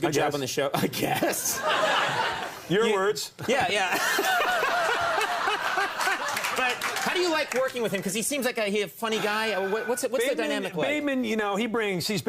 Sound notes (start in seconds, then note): 3.8 laughing